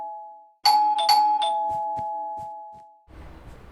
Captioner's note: doorbell ring